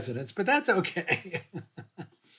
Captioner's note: laughter